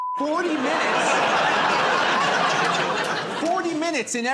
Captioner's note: laughter